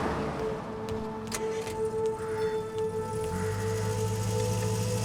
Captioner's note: engine starting